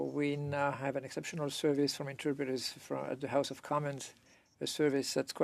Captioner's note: speaking French